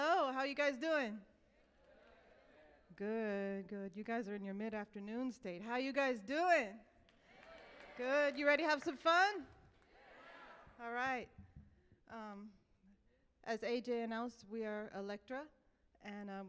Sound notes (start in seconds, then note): 7.3 audience cheers